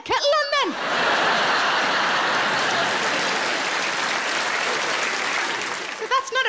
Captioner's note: audience laughing and applauding